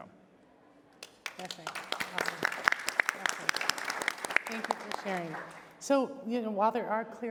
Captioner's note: applause